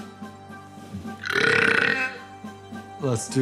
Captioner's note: loud burp